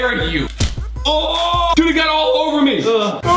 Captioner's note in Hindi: चिल्लाना